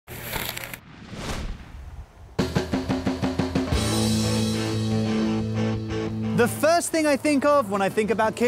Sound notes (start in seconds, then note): 0.2 crunching; 0.7 whooshing sound effect; 2.4 upbeat rock music